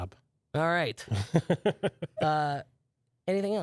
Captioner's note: laughs